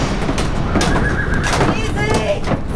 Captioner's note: tense music; horse whining